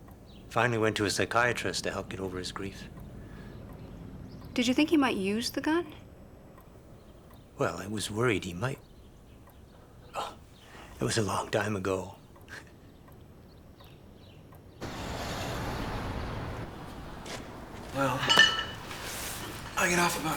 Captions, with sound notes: Finally went to a psychiatrist to help get over his grief. - Did you think he might use the gun? - Well, I was worried he might. Oh, it was a long time ago. (chuckles) - Well, I get off about six.